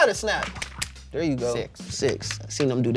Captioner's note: both snap fingers